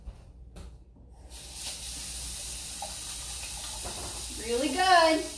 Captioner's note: water gushing